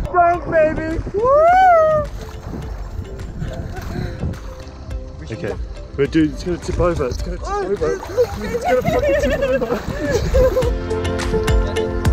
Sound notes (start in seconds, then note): 7.9 laughing